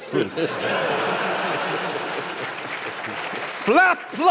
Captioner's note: laughter and applause